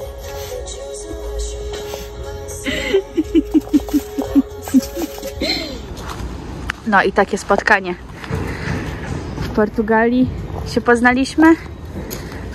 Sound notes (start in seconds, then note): 2.7 śmiech